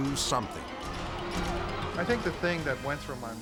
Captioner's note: people screaming